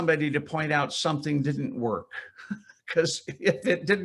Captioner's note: chuckles